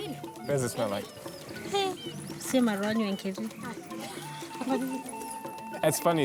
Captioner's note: speaking in native language